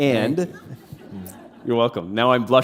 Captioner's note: laughter